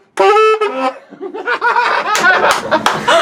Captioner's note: loud saxophone music; laughter